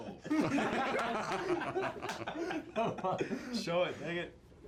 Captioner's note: laughs